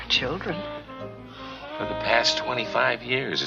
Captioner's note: David sighs